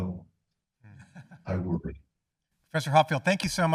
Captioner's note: panelist chuckling